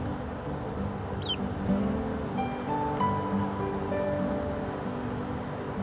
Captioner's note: duckling quacking